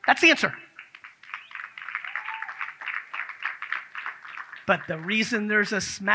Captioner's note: audience claps